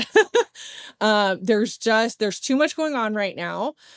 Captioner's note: laughs